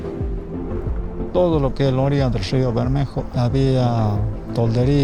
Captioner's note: speaking Spanish